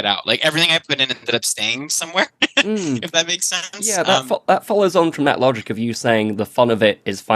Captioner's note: laughs